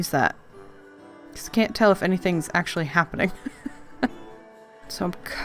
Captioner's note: laughs